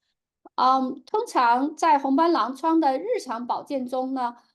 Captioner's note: speaking chinese